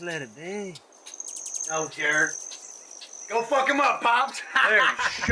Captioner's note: laughs